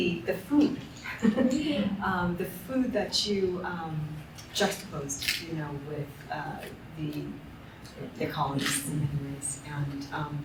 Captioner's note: chuckles